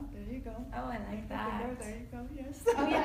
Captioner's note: laughs